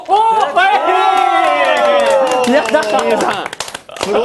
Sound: cheering

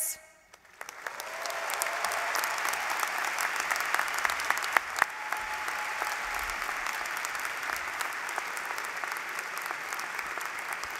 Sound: applause

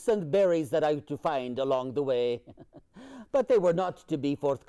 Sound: laughs

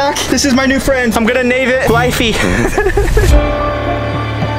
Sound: laughs; agitating music

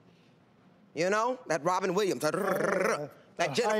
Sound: rolls tongue

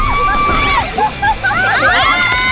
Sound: falling into the water

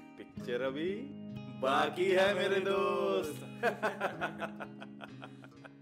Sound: laugh

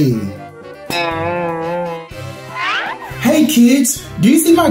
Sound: boinging sound effect

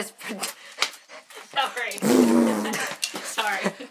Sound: laughing

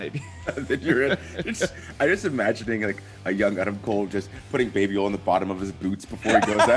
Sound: laugh

